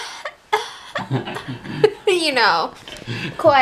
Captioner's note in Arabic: السعال لطيف; يضحك